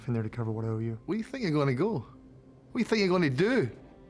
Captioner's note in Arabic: لهجة اسكتلندية